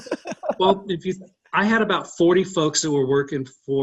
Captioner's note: laughing